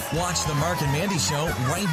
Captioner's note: voiceover